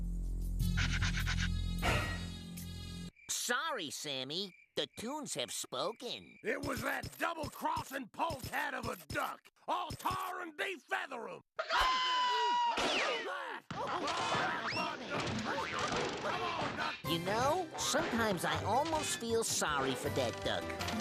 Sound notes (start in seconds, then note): 11.6 screaming